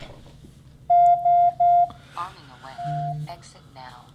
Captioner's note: beep